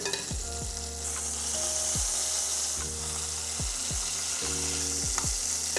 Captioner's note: sizzling sound